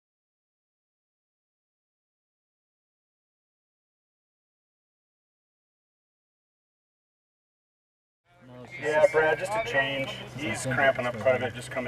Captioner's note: radio traffic, paramedic updating IC, patient health is decreasing